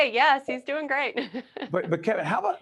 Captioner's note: laughing